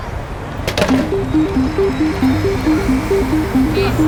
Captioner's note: Coke tumbling from machine